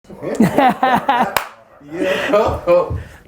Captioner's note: laughs